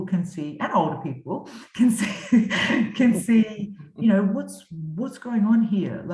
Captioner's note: chuckles